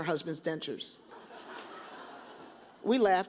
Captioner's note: audience chuckles